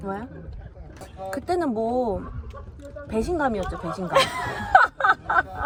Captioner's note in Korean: 웃음